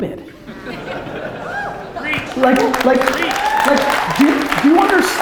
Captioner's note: audience laughter and applause